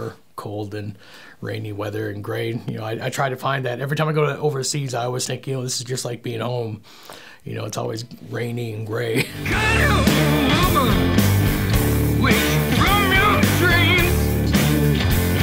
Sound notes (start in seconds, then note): 9.1 laughing